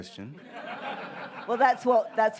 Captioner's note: audience laughs